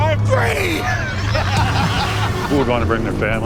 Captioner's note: laughter